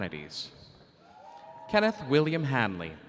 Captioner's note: audience cheering